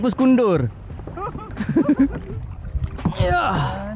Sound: laugh

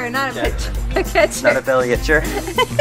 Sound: everyone laughs

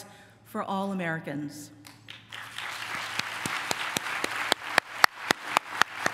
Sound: applause

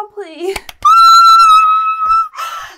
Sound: claps and squeals

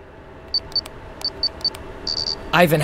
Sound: sound of electronic beeps

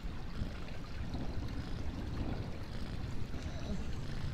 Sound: thunder rumbles

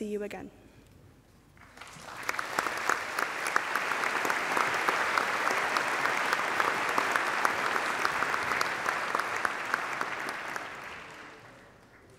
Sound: applause

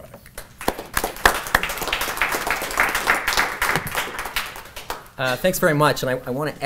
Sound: applause

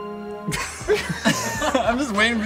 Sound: all three laugh

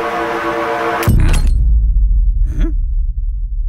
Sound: glass breaks

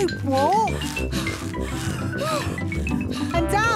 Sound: puffing and panting

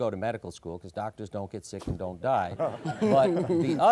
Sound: laughs

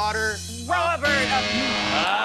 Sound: buzzer sounds

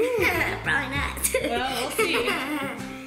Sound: laughs

